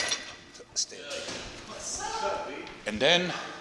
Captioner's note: gym goers conversing